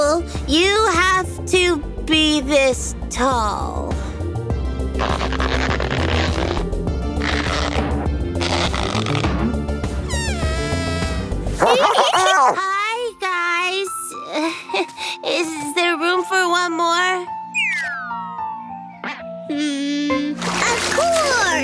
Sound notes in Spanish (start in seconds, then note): 11.6 riendo